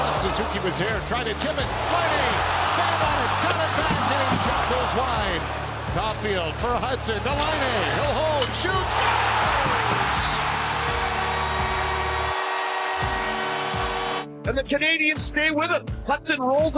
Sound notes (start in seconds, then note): 10.8 goal horn